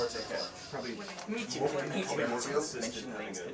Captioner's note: indistinct chatter